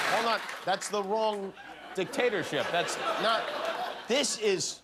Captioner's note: yelling in foreign language